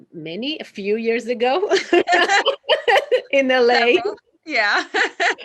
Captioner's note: laughs happily